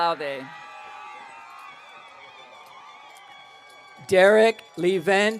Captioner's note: audience cheering